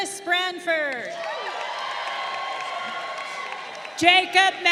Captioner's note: crowd cheering